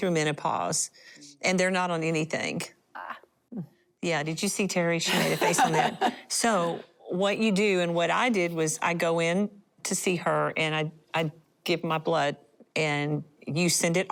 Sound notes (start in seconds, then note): 6.8 laughter